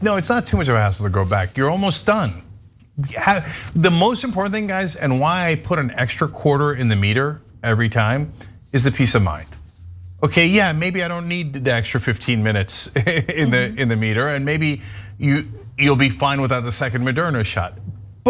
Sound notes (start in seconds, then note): 12.8 laugh